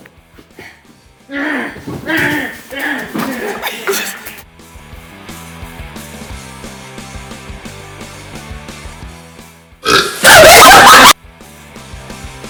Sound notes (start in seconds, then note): 10.0 Trenton belches, everyone flips out